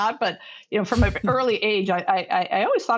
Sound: laughs

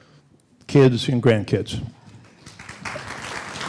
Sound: applause

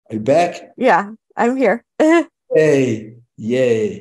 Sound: giggles

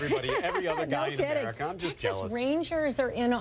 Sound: laughs

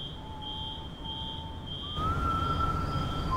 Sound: whistling

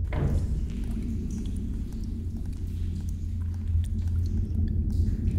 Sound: water dripping

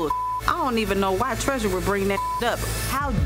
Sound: beep; beep

